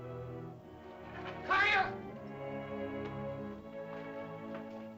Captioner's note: ominous music; Tumak shouts; soft music